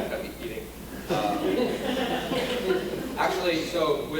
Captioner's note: audience laughing